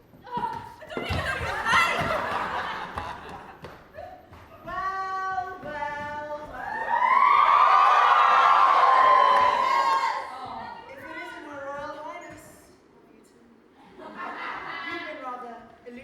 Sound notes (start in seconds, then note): 0.1 Cinderella: ahhhh; 1.1 audience laughs; 6.6 audience cheers, someone shouts "YES! Love you Fran!"; 13.9 audience laughs